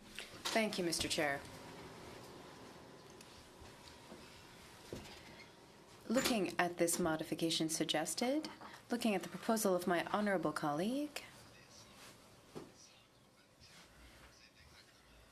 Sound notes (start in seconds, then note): 6.9 speaking French